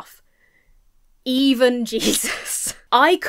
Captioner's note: chuckles